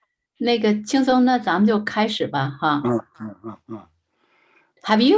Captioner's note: speaking in foreign language